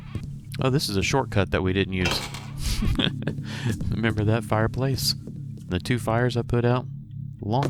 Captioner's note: laughs